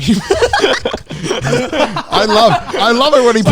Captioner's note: everyone laughing